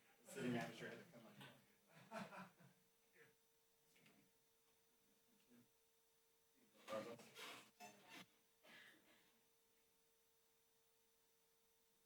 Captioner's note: background chatter